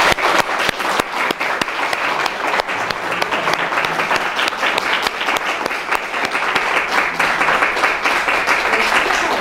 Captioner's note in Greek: χειροκρότημα